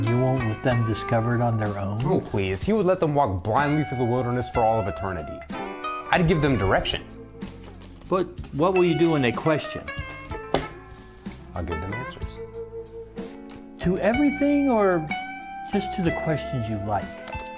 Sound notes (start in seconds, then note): 7.4 card shuffling; 10.4 slams cards down